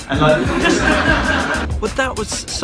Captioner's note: audience laughs